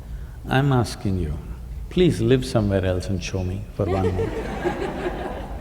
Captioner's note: laughter